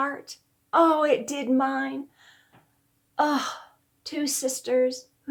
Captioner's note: sighing